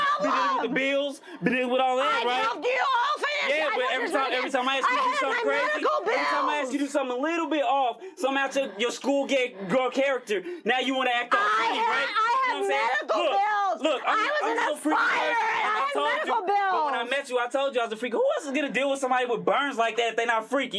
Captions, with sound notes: Picking up the bills, that it would all end, right? [yelling] Every time I ask you to do something a little bit off, some-- your schoolgirl character. Now you want to act like a bully, right? I have medical bills. I was in a fire, and I had medical bills. But when I met you, I told you I was a freak. Who else is going to deal with somebody with burns like that if they're not freaky,